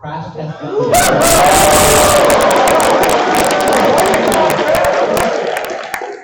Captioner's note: applause